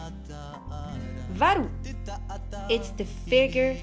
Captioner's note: foreign language